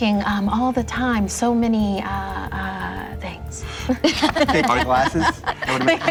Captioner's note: laughter